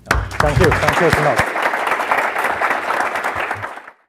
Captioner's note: applause